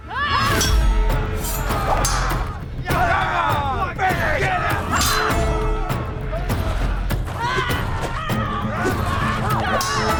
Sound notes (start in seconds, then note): 0.2 upbeat music; 4.4 all cheering; 6.3 upbeat music